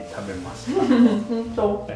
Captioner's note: laugh